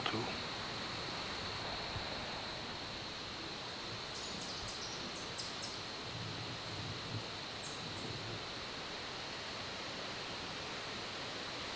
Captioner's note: insects/birds